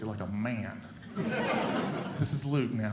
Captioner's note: audience Laughing